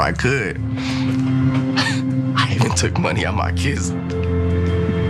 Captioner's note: laugh